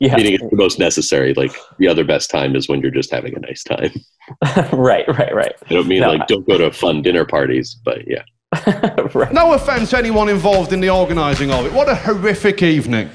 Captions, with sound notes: meaning the most necessary. The other best time is when you're just having a nice time. - Right, right. - I don't go to fun dinner parties, but yeah. - (laughing) Right. - No offense anyone involved in the organizing of it, what a horrific evening.